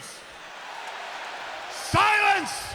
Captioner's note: audience booing